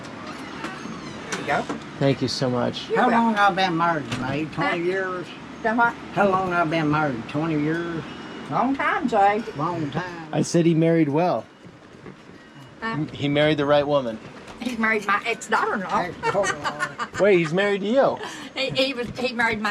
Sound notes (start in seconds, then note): 16.0 laughing